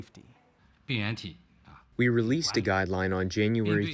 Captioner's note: through translator